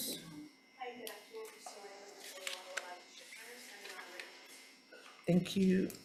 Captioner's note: speaking away from mic